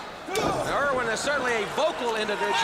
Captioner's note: crowd chatter